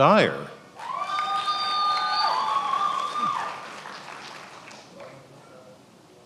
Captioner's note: attendees applauding and cheering